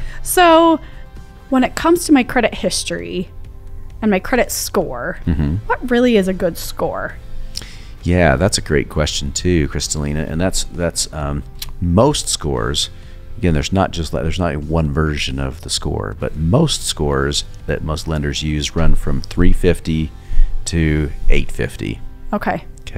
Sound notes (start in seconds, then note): 5.2 humming